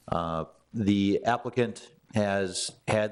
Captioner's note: none